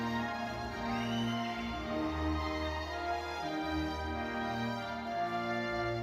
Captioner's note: audience member whistles